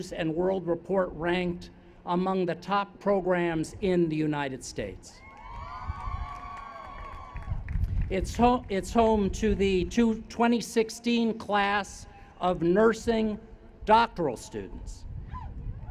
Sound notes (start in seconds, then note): 5.2 cheers